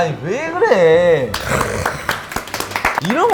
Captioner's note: applause